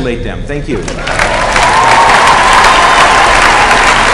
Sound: applause

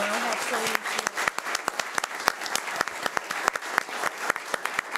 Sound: audience applauding

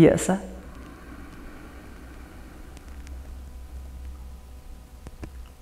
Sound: inhales

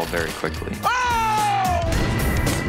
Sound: yells

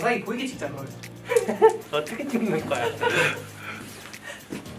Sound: haha

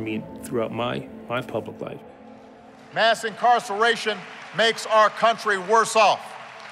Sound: applause

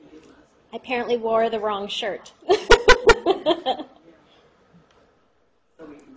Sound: laughter

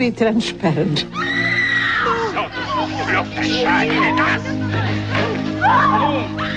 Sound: screaming in movie

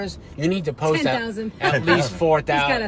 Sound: laughs

